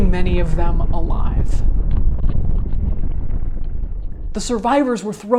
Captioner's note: avalanche rumbling